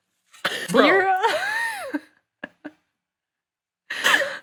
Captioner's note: laughing